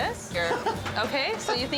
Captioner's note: John laughs